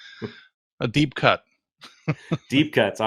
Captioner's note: laughs